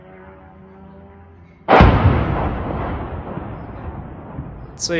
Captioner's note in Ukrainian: вибух